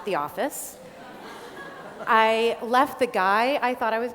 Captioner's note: laughter